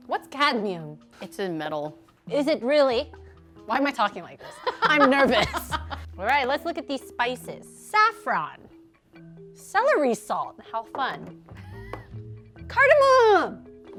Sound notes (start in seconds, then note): 4.4 laughing